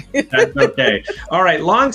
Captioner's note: laughs